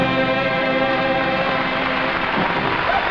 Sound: audience applauding

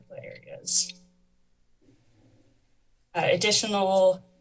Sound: pause

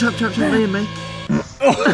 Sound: farts; laughs

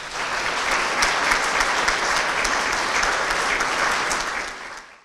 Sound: applause

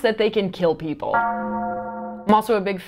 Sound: bell clangs

